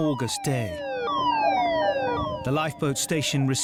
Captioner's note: siren blaring